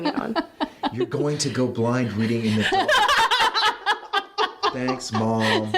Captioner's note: laughs